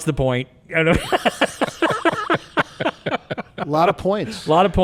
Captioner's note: people laughing